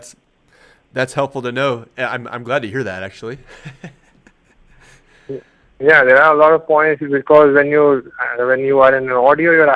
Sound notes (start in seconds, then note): 3.4 laughs